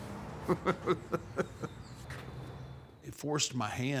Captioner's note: Undertaker laughing